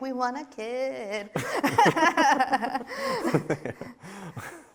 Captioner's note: both laughing